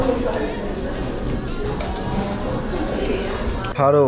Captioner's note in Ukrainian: Сьорбає